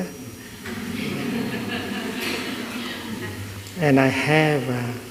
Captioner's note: laughter